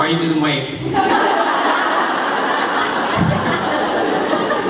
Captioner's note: laughter